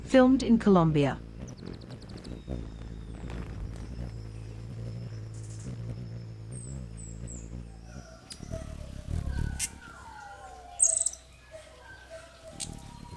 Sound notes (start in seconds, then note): 1.3 bird's wing flapping; 1.8 birds chirping